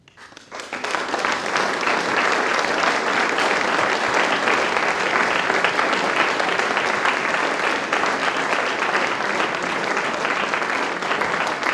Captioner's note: applause